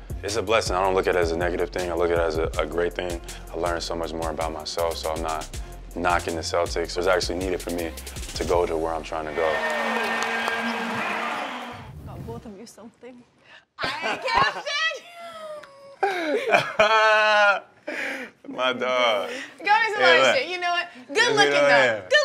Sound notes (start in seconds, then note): 13.8 laughter